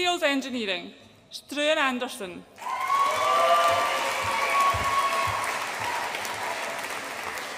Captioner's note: audience applauds and cheers